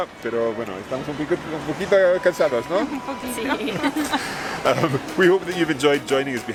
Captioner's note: conversing in foreign language